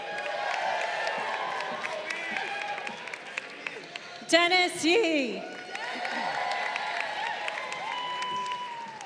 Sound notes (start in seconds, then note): 0.1 crowd cheering; 1.7 people in audience shouting; 5.8 crowd cheering